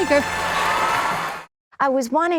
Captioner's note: loud applause